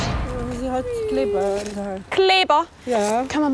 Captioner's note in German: Leises Wimmern